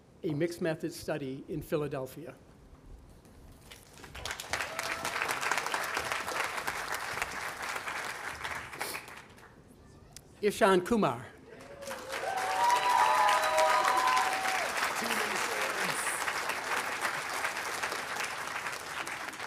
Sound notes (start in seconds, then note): 3.9 audience applauding; 11.5 audience cheering and applauding